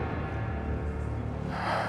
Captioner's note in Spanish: exhala